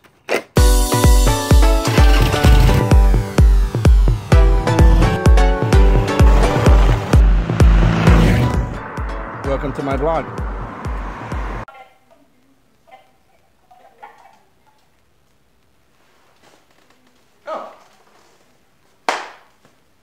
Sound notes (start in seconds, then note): 19.0 clap